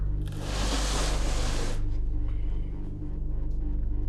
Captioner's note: sliding